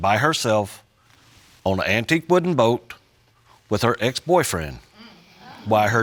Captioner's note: audience murmuring